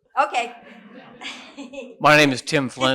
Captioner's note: laughter